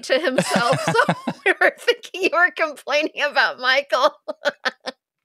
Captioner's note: laughing; laughing